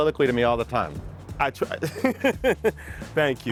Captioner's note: laughs